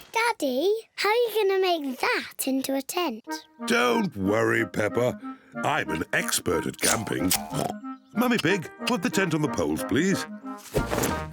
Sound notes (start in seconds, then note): 6.8 oinks